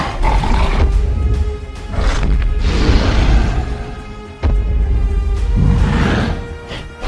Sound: carnotaurus Stomping Sounds

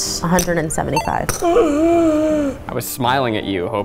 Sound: gasping

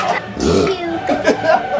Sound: laughing; laughing and screeching; belch

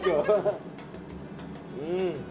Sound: laughs

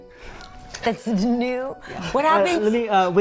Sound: brothers chuckling

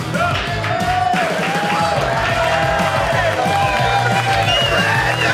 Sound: audience cheering and clapping

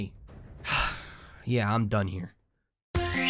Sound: sighs

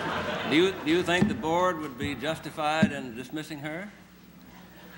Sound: laughter

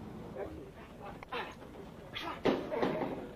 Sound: grunting

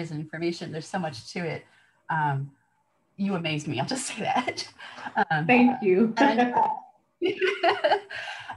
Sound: laughter

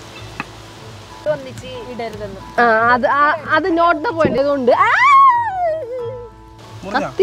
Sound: yelping out of cut pain

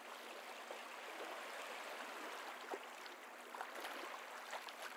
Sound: water waves

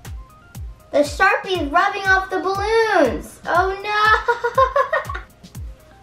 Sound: laughing

